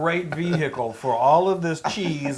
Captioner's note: laugh